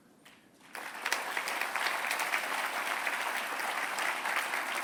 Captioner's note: applause